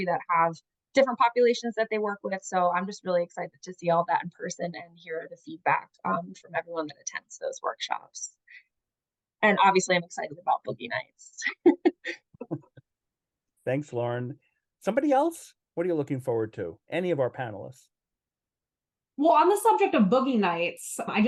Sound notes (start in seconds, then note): 12.4 laughs